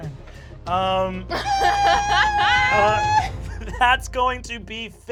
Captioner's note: laughter